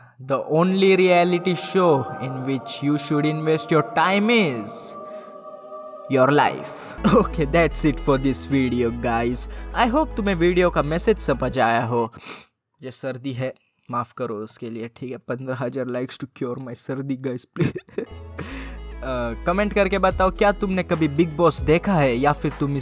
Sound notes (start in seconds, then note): 17.6 laughs